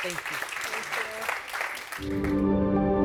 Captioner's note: audience applauding